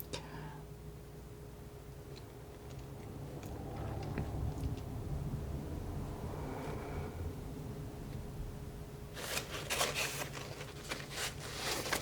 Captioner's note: scratching